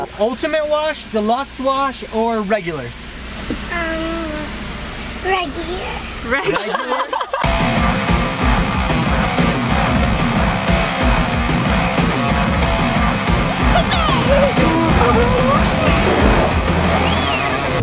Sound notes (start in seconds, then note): 6.3 laughs; 8.1 intense music